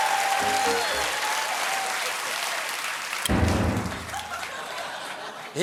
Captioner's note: cheers and applause